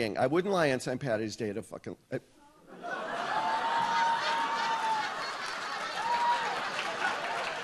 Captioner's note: audience shouts and laughs; audience laughs